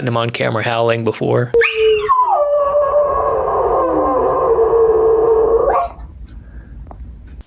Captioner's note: Jaco howls